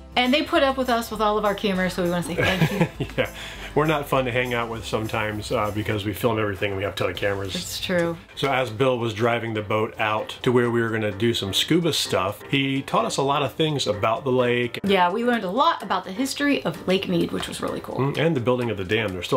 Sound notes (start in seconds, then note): 2.3 chuckles